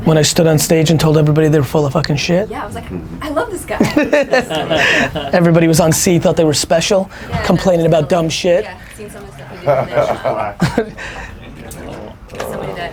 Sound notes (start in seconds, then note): 4.7 laughs